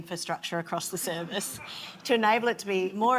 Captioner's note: audience laughs